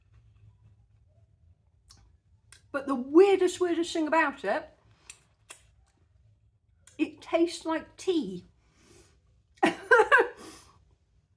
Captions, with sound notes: But the weirdest, weirdest thing about it... it tastes like tea. [laughing]